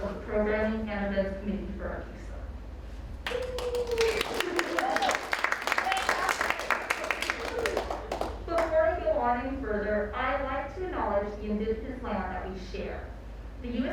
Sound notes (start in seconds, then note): 3.2 audience applauds